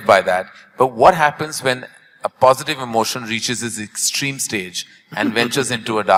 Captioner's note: Sadhguru laughs